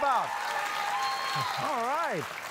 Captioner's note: cheering